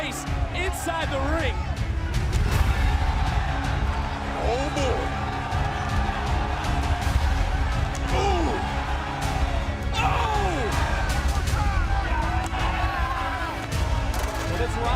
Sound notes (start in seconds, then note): 9.0 cheers and applause